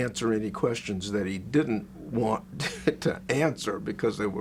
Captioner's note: laughs